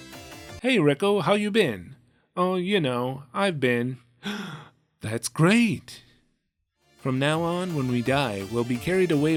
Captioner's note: gasp